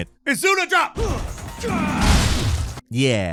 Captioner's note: character grunting; explosion booms; exciting music